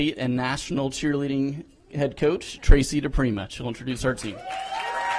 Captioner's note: applause